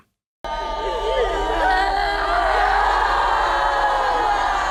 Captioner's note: all wailing